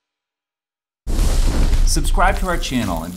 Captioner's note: fire whooshing